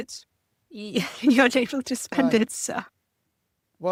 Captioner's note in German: lacht